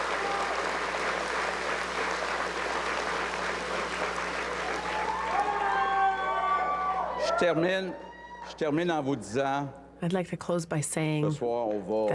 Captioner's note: cheers and applause